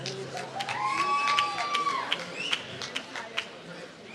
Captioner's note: applause